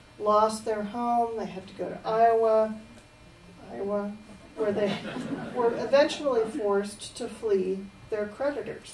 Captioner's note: laughter